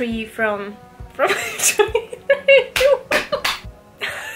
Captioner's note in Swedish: Skratt